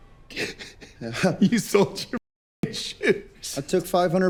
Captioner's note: laughing